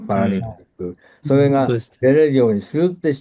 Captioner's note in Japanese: 咳払い